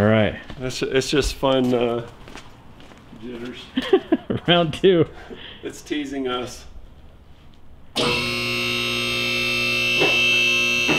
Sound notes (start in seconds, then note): 8.0 motor sounds